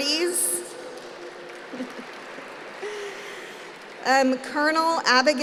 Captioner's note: applause